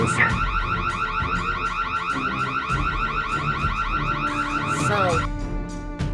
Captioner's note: car alarm continues